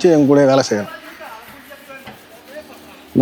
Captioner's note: coarse scrubbing